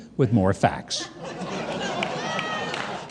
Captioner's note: audience laughs